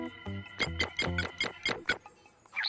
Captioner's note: keypad tones